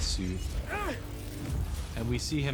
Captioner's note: Scott grunts